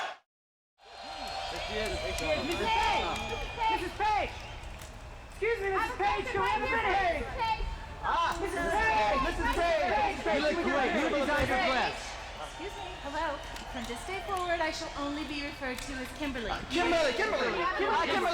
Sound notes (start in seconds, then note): 8.4 reporters in unison; 18.1 reporters talking in unison